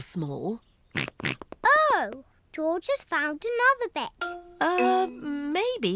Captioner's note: snorts